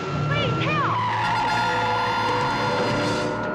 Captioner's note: tires squealing